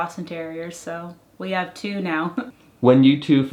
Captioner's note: laughs